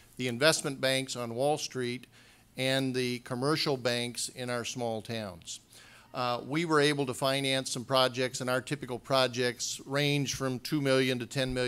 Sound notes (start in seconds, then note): none